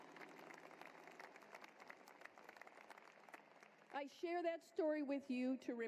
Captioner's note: applause